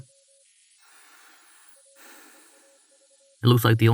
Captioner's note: A strange signal grows louder